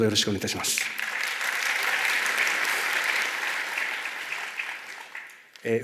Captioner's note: clapping sound